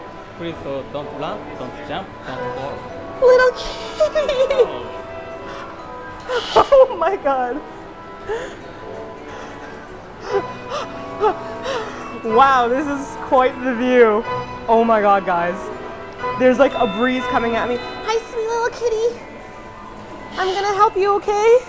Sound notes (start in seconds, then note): 3.5 gasp; 11.4 more gasping